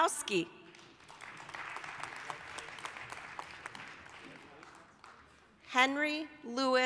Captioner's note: applause